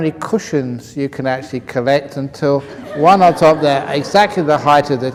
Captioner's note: laughter